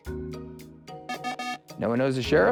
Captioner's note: times-Up Buzzer